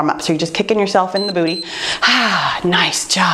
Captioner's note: timer beeps